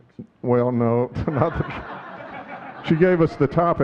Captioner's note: audience laughing